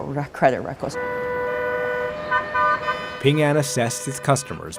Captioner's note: horns honking